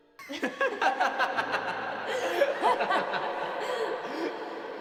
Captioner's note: boy & girl laughing